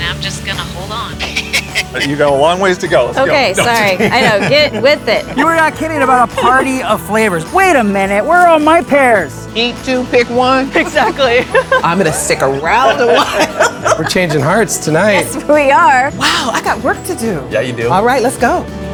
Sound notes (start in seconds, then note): 11.5 laughing; 18.6 vibrant music ends